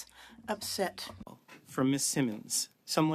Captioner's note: speaking French